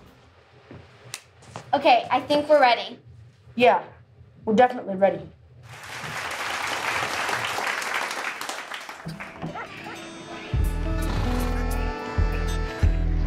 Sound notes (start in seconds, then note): 5.6 applause; 9.4 barnyard animal sounds